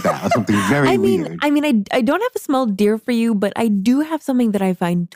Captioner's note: laughs